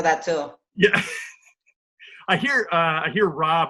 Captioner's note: chuckles